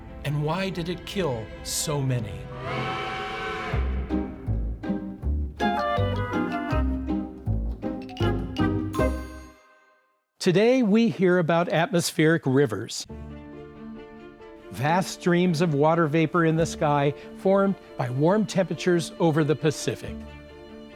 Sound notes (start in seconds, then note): 2.4 horn toots; 3.7 bright music